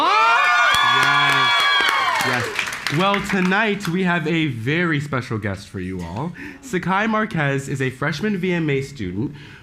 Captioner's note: applause